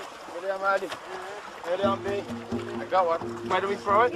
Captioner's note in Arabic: بالثرثرة بلغة أجنبية